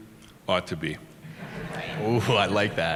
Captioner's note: laughter